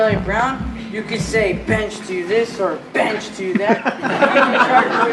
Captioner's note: laughing